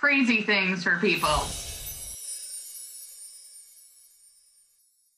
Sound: twinkling effect

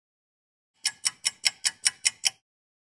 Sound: sound of a ticking clock

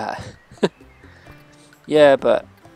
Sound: laughs

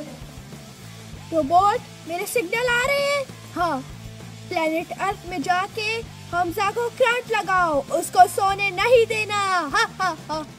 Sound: ha ha ha

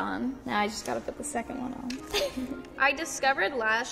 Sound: laughs

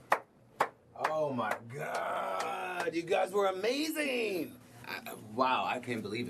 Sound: clapping

